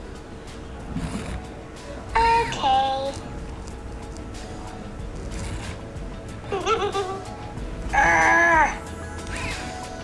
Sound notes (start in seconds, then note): 6.4 giggles